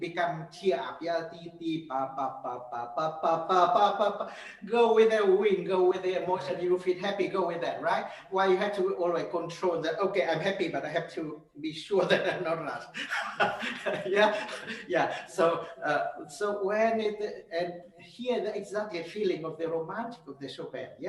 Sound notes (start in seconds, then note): 1.5 sings; 11.8 laughs